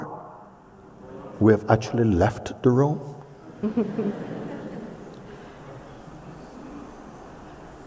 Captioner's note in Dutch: gelach